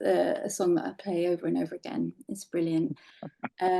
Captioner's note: laughing